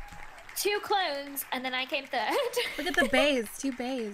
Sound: laughs

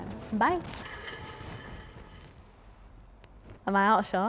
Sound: chair rolling

